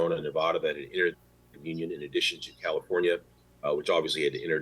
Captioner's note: audio freezes